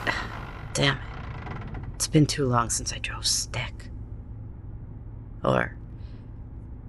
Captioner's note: grinds a gear